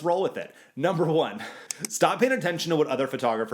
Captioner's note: clicking